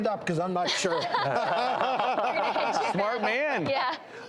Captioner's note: laughing